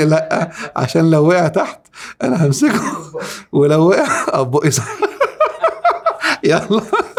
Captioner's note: laughs!